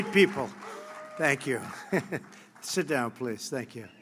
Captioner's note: applause; laughs